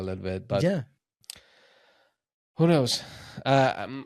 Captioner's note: clicks tongue